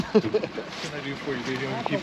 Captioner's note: chuckling